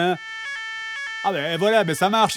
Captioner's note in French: alarme